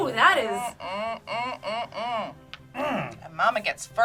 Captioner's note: hums